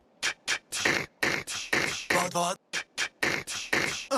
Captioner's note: beatboxing